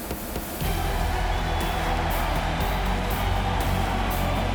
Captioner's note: crowd cheering